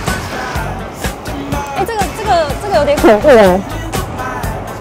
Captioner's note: audio distortion